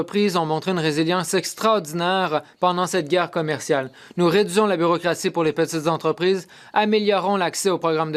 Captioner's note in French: voix de l'interprète